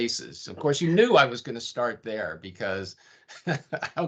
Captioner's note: chuckling